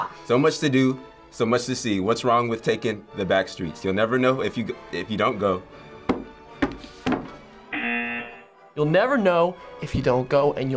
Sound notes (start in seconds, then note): 7.0 hits table; 7.7 buzzer